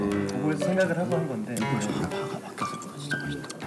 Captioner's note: quietly talking amongst themselves